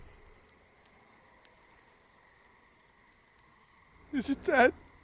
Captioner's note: faint hissing